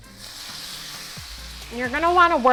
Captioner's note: sizzling